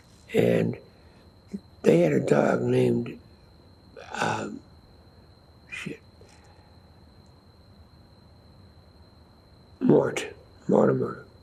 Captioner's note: pauses 6 seconds